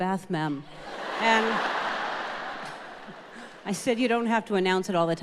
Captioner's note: audience laughing